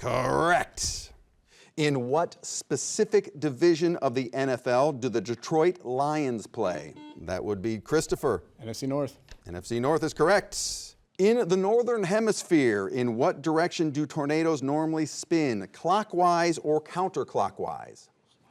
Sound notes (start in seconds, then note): 6.9 buzzer beeps